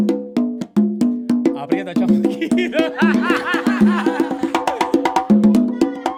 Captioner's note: laughs